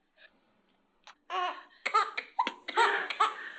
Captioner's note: baby crying